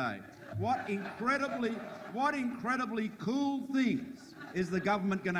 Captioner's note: audience laughs